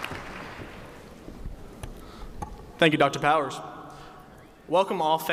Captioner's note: cheers and applause